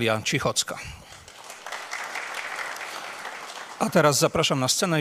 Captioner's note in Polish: oklaski